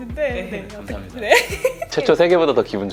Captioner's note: giggle giggle